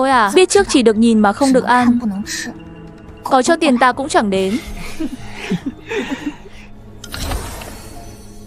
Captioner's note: laughs